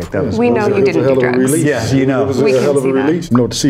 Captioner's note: guests chattering